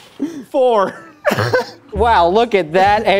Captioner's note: laugh